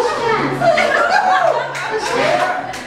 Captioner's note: audience laughs